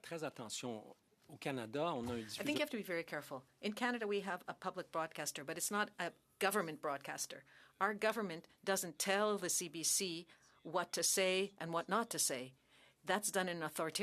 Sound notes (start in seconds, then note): 2.8 speaking French